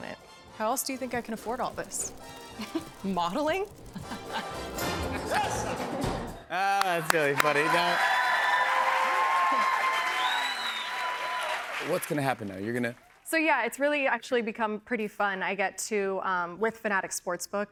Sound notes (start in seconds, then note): 2.3 chuckles; 6.6 cheers and applause